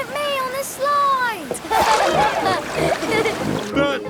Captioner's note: laughing